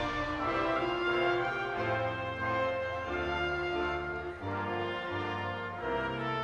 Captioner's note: audience continues applauding and cheering